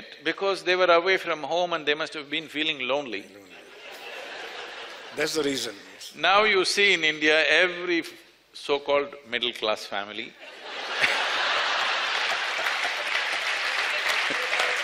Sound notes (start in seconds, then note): 3.4 laughter; 10.5 laughter/Applause